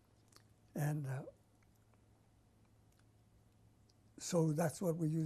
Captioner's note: pauses for 3 seconds